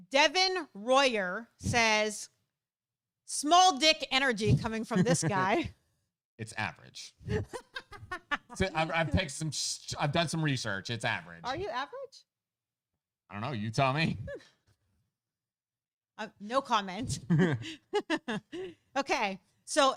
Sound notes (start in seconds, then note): 7.2 laughing; 17.1 both laughing